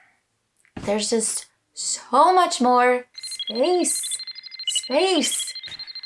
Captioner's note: satellite sounds